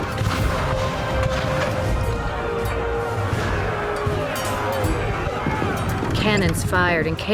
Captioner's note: cannon blasts, gunfire